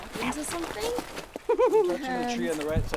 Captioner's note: laughing